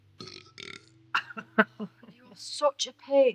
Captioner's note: Sam belching; Sam laughing